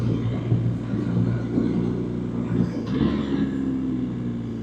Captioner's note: engine Sound